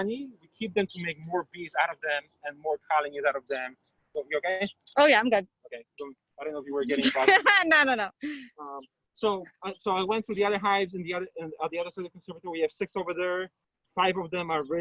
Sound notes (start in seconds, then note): 6.4 chatter